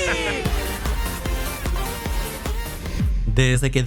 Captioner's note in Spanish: Todos celebran